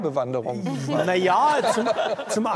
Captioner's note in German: Lachen